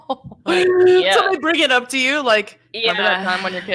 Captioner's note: laughs